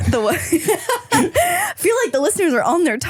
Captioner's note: laughing